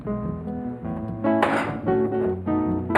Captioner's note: banging